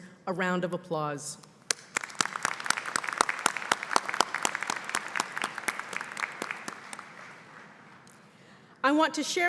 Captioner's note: applause